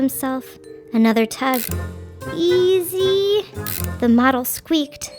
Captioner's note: model squeaking; wrench ratcheting